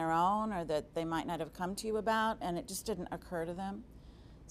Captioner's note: none